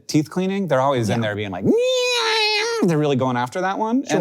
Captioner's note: imitates whirring